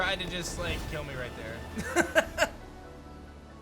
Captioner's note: laughs